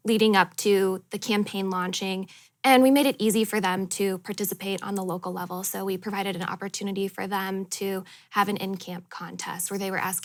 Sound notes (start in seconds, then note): none